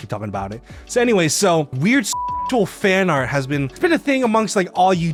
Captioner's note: beeps